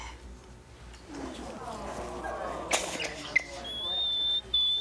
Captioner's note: audience murmurs